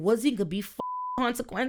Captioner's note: beep